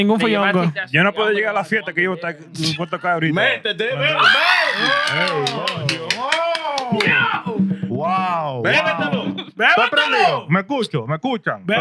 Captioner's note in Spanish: Hablando en idioma extranjero